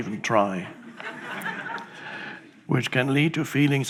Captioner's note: audience laughs